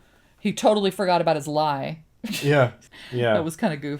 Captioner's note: laughs